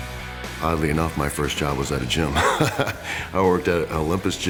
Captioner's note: laugh